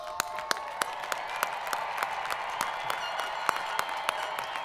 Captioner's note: students cheering